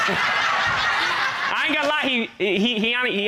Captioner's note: all laughing